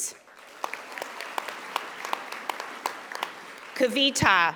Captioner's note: audience applauding